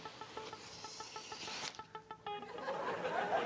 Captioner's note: laughter